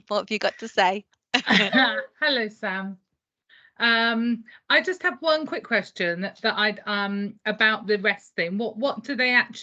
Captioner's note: laughter